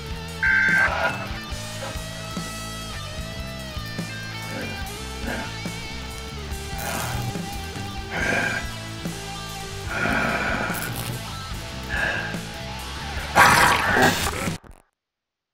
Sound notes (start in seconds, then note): 5.1 grunting; 8.1 grunting; 10.0 growling; 12.7 furious snarl; 14.1 digital static